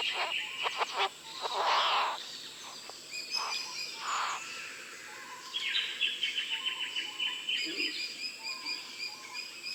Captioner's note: bowerbird sounds